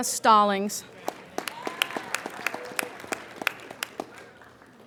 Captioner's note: applauding